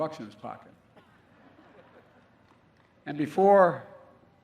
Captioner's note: laughter